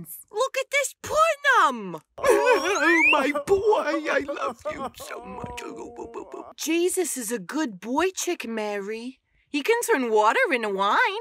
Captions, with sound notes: Look at this punim! -*Jesus groans* -Oh, my boy! I love you so much! -*Jesus groans* -A goo goo boo boo boop. Jesus is a good boychik, Mary. He can turn water into wine!